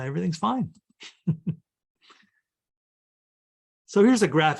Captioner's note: chuckles